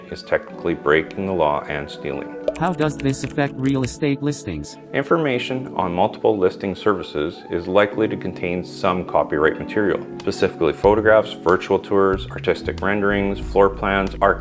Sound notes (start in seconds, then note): 2.7 voiceover